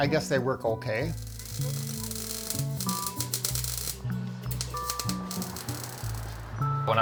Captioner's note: welding